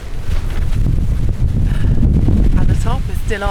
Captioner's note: wind